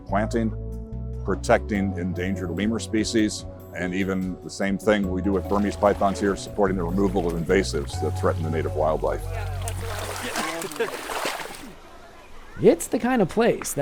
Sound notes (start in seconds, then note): 9.4 water sloshes